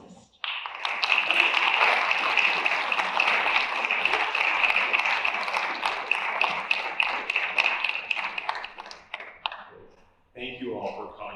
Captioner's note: applause